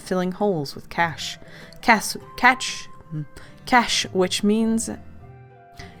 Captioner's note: annoyed hum